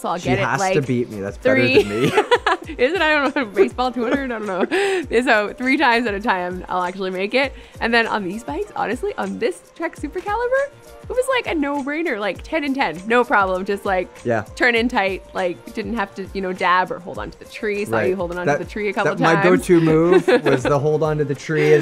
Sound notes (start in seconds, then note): 1.5 laughs